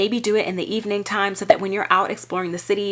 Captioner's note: graphic popping